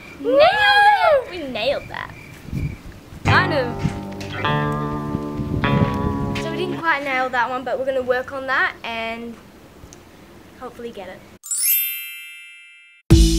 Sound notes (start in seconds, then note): 1.5 crickets chirp; 11.4 chime; 13.1 upbeat techno music